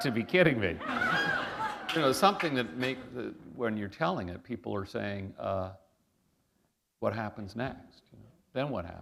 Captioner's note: laughter